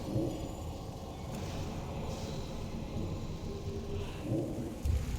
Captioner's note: wind howling